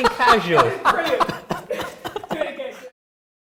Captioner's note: laughter; off-screen laughter